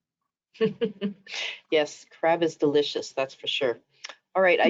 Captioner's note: laughing